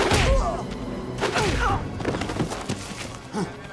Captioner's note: blows thudding